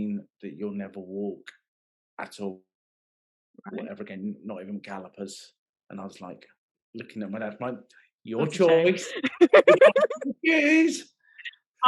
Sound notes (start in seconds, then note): 8.4 laughing